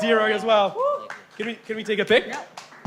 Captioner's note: whoop